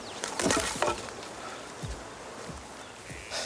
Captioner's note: logs thudding